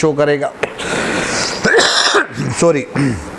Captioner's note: coughs